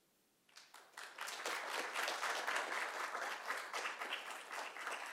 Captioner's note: audience applauds